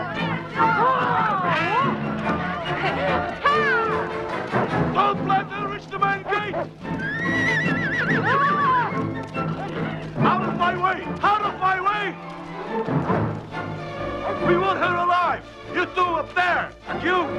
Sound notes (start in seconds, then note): 8.4 Hundra shouts